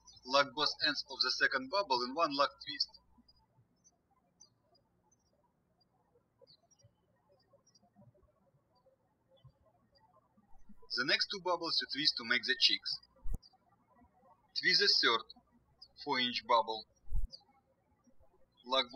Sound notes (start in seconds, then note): 0.0 birds chirping; 3.3 birds chirping; 14.5 birds chirping